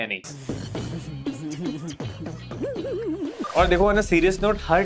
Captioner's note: chuckling